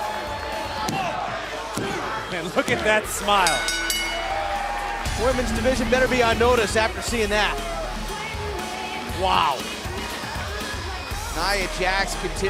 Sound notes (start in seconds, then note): 5.3 crowd chatter; 7.7 bell ringing